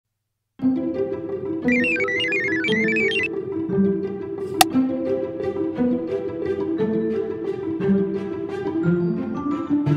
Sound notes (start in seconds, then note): 1.7 technical connection beeps; 4.2 snapping sound